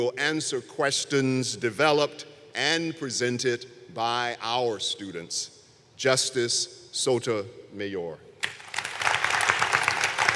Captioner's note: applause